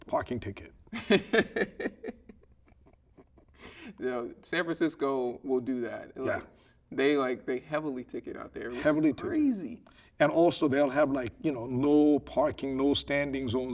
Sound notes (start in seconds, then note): 0.9 laughing